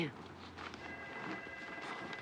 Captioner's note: telephone ringing